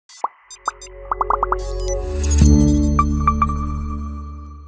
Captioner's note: logo electronics beeping